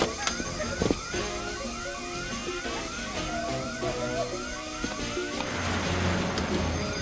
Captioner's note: dramatic music; alarms blaring